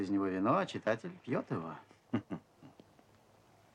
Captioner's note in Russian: смеется